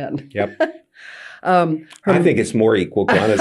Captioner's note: laughing